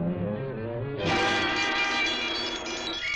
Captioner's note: alarm bell rings